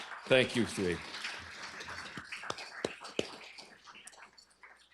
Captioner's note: applause